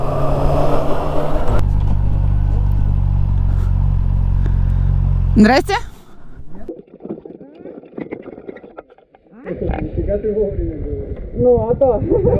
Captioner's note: in Russian